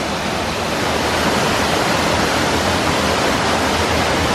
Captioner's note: sound of running water